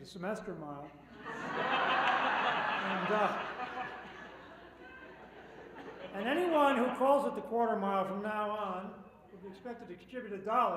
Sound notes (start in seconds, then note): 3.3 laughter